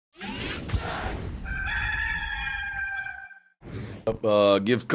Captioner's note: rooster crowing